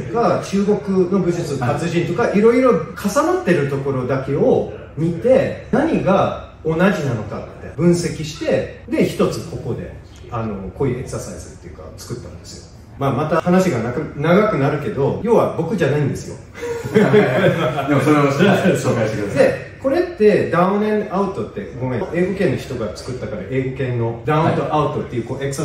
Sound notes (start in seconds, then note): 16.6 laughter